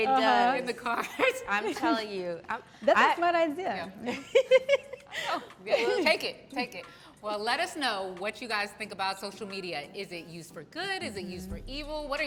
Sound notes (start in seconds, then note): 4.2 laughs